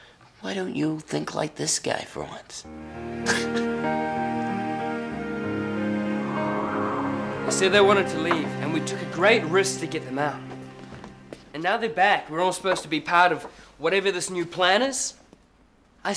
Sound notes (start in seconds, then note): 3.2 chuckles; 6.2 wind blowing